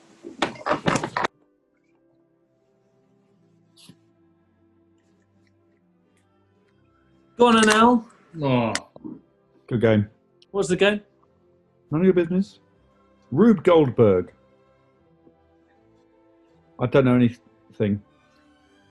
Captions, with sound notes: [OPENS CAN] Go on then, Al. Oh! Good game. What was the game? None of your business. Rube Goldberg. I don't know any... thing.